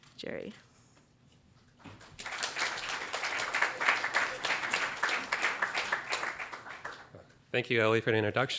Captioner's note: applause